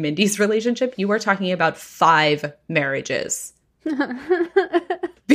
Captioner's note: nervous laughter